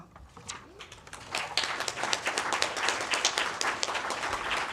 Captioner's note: applause